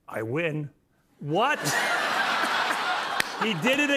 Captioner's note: laughter